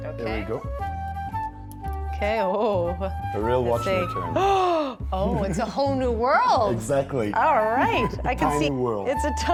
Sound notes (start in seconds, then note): 4.5 gasps